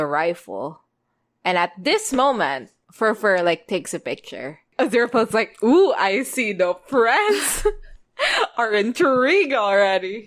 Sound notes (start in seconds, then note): 7.9 laughs